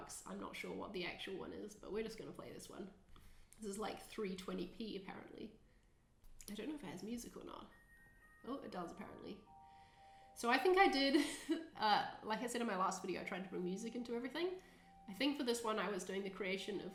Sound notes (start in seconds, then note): 9.7 twinkling music; 11.5 chuckling